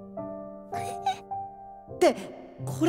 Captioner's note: whimper